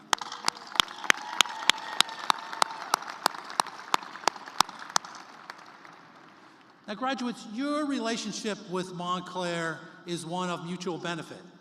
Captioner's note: cheers and applause